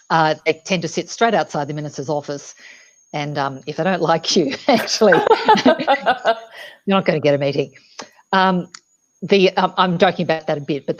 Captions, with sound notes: They tend to sit straight outside the Minister's office. And if they don't like you actually-- (both chuckles) You're not gonna get a meeting, the, I'm talking about that in a bit,